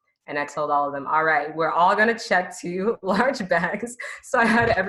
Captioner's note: laughs